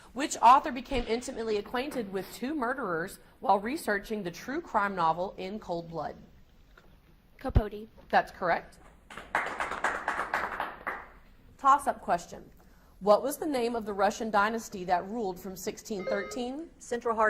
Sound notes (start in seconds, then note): 9.1 audience applauds